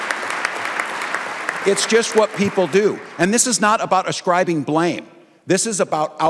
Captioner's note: applause